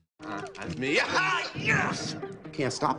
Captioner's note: excited yelling